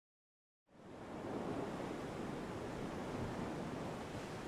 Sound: waves rolling

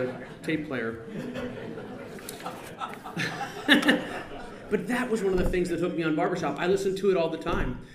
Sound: laughter

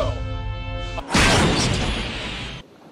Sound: crash

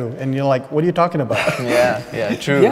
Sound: laughing

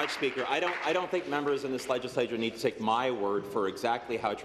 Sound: applause

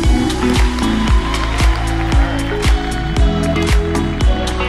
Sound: crowd cheering & applauding

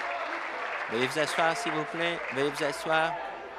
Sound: applause

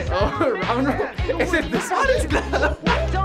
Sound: laughs

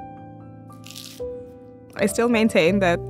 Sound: galette crunches

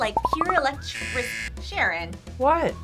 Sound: buzzer

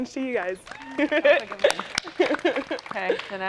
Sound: laughs

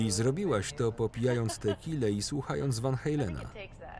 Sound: laughing

